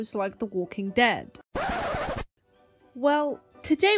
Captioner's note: record scratch